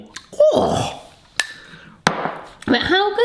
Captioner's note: groans